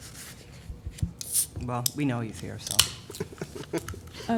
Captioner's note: laughter